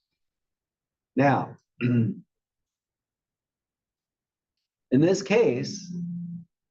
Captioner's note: cough